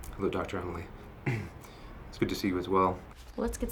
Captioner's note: clears throat